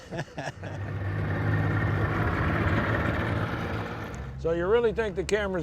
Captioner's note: laughs; boat engine revs